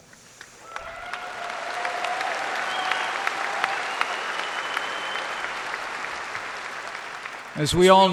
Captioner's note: applause